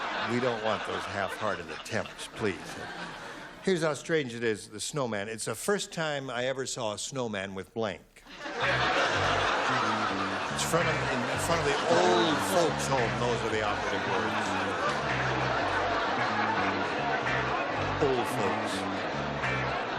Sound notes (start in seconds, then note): 8.2 laughter